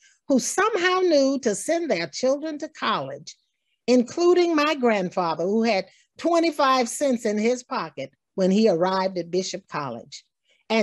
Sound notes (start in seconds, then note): none